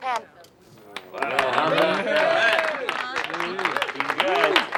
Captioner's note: officers applauding